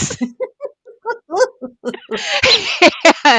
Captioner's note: laughing